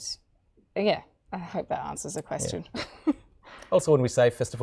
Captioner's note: chuckling